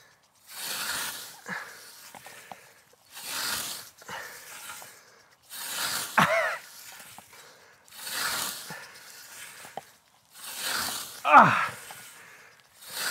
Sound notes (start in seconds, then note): 10.6 grunting